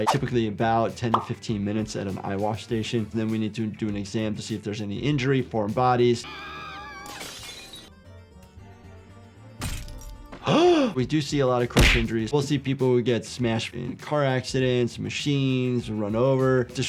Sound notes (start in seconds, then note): 6.2 bunny screaming; 7.1 glass breaking; 8.3 classical music; 9.6 glass breaking; 10.4 doctor gasping